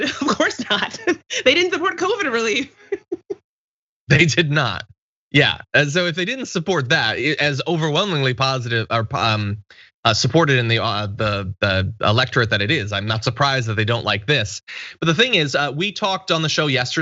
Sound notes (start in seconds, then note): 0.1 laugh; 4.1 laugh